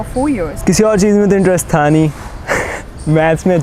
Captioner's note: laughs